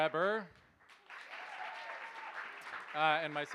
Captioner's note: cheers, applause